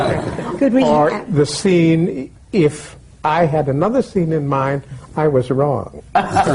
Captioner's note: laughter